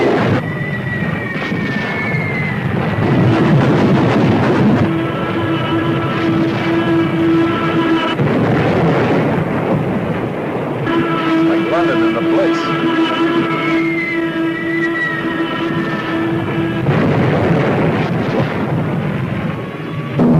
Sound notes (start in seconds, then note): 0.0 missiles whistling; 2.9 explosion booming; 5.7 plane whooshing; 8.0 explosion booming; 10.8 plane whooshing; 16.7 explosion booming; 20.1 plane engines roaring